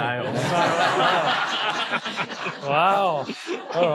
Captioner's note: audience laughing